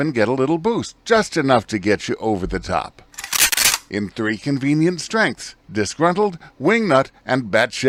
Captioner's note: shotgun loads